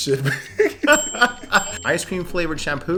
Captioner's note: both laughs